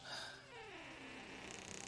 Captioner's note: door creaks